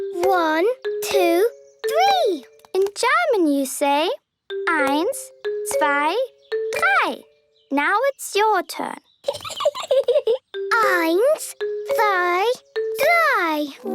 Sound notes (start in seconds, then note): 9.2 Peppa giggling